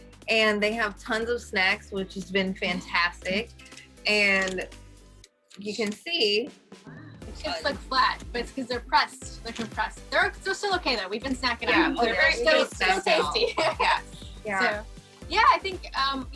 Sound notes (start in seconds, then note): 11.7 aquanauts chatter in agreement